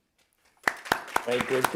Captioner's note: applause